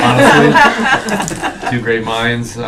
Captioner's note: laughing